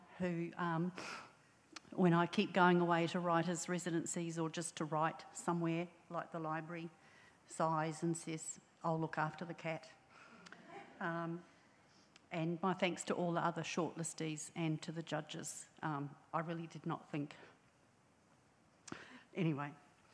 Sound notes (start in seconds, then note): 10.6 audience chuckles